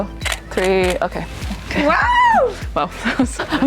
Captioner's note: screams